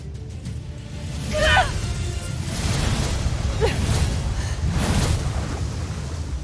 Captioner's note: grunts, powerful blast; evil energy whoosh & crackle; mystical music playing